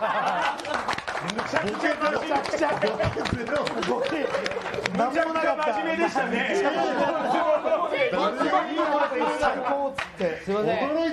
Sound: cheering and joking

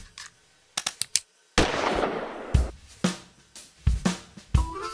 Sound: gunshot

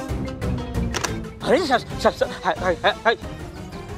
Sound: stuttering

